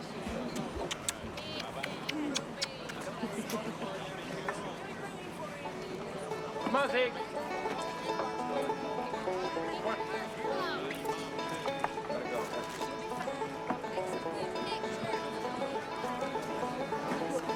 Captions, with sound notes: (laughing) They want that. (people talking together) - Be careful. - We'll be praying for you. - Come on, Sig.